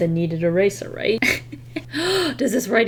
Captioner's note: laughs then gasps